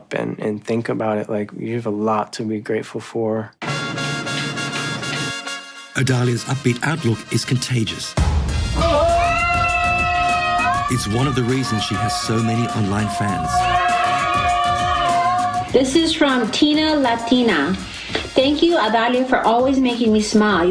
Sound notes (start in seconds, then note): 3.8 upbeat trumpet music; 13.6 cheering